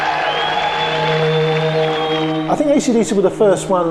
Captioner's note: applauds